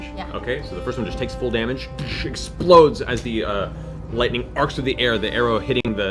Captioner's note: impact noise